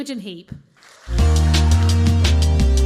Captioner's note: applause